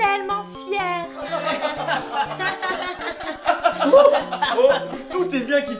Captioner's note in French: rires